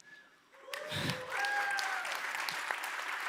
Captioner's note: applause